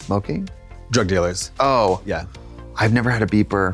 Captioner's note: none